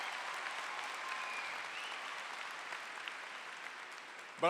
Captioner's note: applause